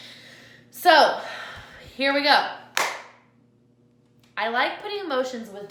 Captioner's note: claps hands